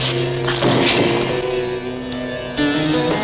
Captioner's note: thudding